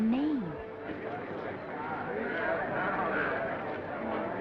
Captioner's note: attendees chattering